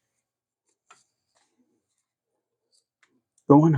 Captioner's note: silence